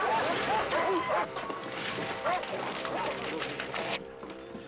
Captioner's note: barking